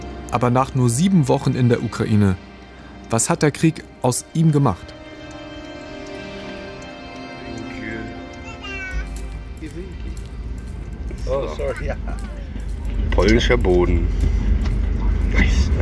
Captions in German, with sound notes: Aber nach nur sieben Wochen in der Ukraine, was hat der Krieg aus ihm gemacht? (Angespannte Musik) (Stimmengewirr) "Polnischer Boden, nice."